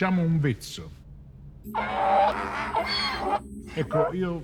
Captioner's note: Donkey's bray